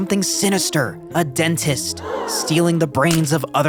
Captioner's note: crowd gasps